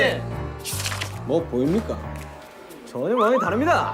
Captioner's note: mysterious footstep